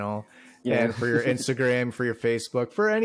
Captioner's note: chuckles